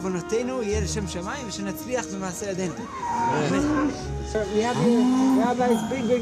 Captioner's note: speaking in Hebrew